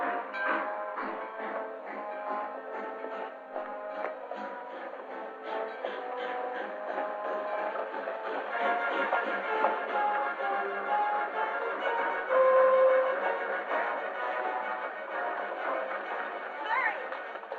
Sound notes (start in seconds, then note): 4.2 train rattling; 10.8 tense music